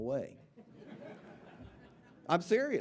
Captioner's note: audience laughing